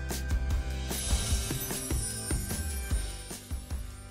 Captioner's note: light music continues; chimes ringing; light music continues